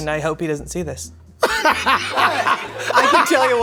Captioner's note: laughing